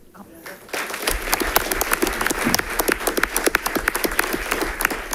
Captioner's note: audience applauding